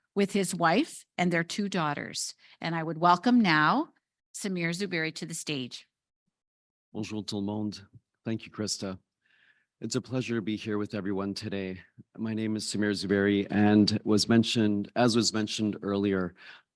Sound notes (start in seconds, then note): 7.0 speaking in foreign language